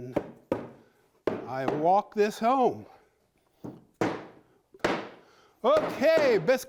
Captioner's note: hammer banging